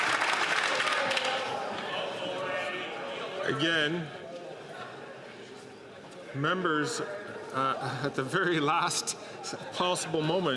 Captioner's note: some Applause